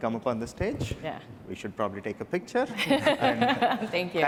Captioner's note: laughter